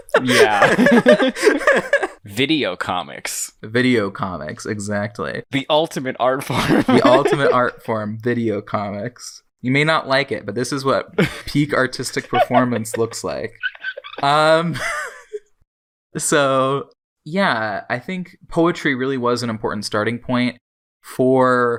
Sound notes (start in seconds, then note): 0.0 both laugh; 6.4 laughs; 12.1 laughs